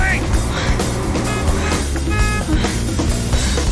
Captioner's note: horn honking